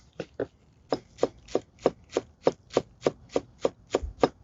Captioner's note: knife thumping